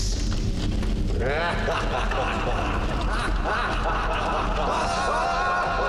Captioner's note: Lord Ocelotl laughs